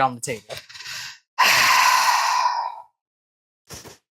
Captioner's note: suffering sigh